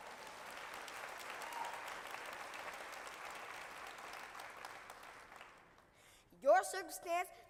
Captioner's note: applause